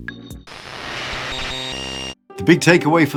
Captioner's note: static sound